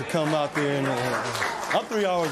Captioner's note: applause